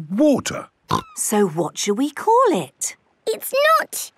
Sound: snorting

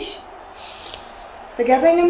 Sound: sigh

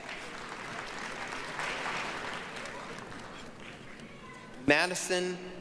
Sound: applause

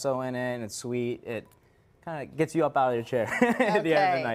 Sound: laughter

